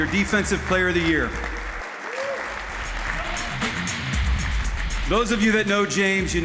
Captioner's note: applause